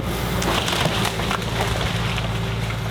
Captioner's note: loud construction sounds